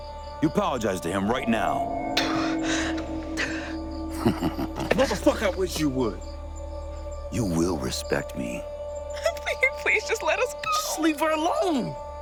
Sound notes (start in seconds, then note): 2.1 spits; 3.9 laughs